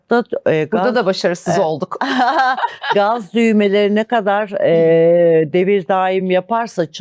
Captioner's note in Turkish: kahkaha